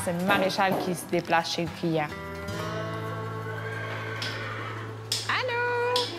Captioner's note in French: hennissement